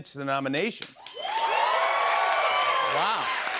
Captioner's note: cheers and applause